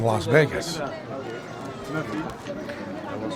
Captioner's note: non-english speech